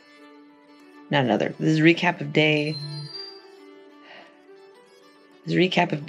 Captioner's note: phone chime